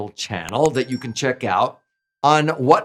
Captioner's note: bell chimes